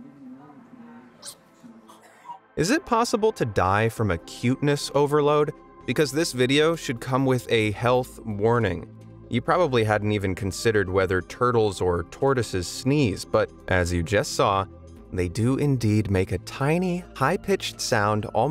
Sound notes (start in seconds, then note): 1.2 turtle sneezing